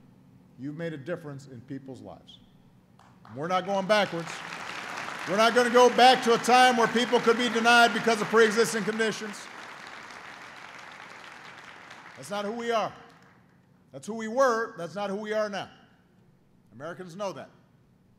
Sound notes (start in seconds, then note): 3.6 applause